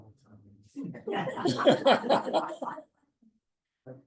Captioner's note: laughter